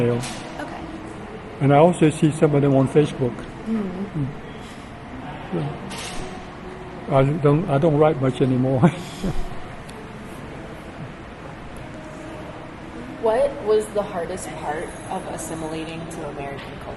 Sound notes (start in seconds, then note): 10.6 laughs